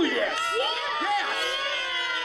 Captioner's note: cheering